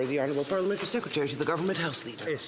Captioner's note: speaking French